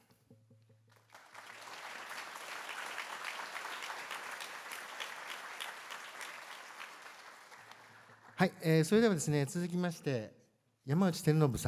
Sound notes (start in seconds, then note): 0.8 applause